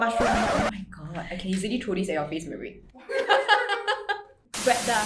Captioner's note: laughter